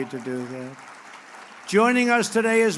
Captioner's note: applause